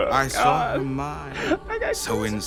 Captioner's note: inhale